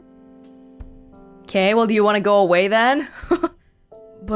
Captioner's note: chuckles